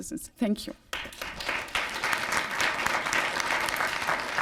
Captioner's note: applause